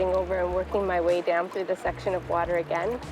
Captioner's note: food sizzling